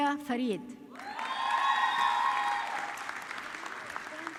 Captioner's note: audience clapping